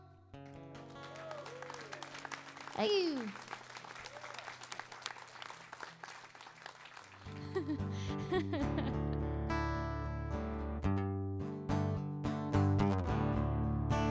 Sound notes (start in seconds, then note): 0.8 audience cheering; 7.2 laughing; 7.3 guitar strumming